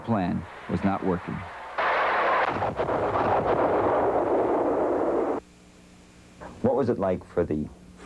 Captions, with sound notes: THE ORIGINAL PLAN WAS NOT WORKING. ( explosions ) WHAT WAS IT LIKE